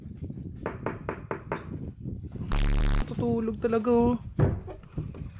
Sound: knocking

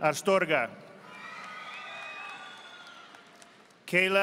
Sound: audience applauding

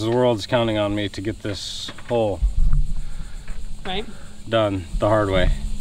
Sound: mutter

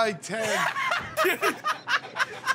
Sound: laughing

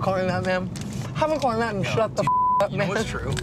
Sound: beeps

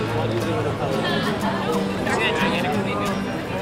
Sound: crowd talking

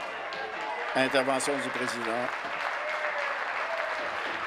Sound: voice trailing; applause

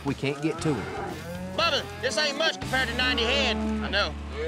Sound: mooing

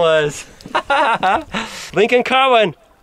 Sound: laughs

